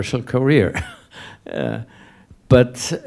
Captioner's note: laughs